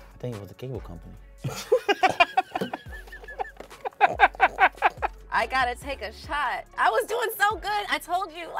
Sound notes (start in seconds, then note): 1.4 both laughing